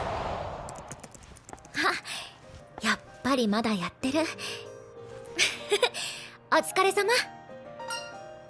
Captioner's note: laugh